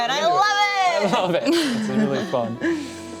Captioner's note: laughs